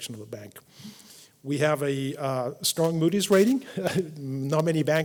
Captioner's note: laugh